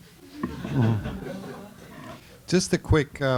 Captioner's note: laughter